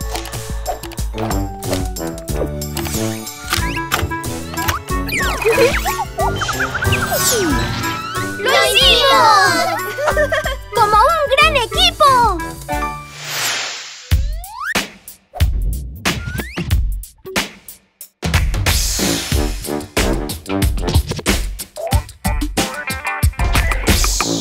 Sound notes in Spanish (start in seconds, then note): 0.0 Música Alegre; 9.8 Risas; 12.5 Música alegre